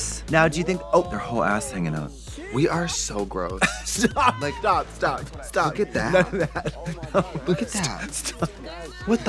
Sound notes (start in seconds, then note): 3.6 laughing